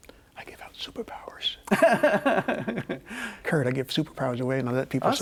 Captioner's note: whispers; laughs